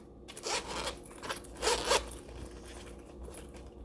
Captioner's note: zip rasping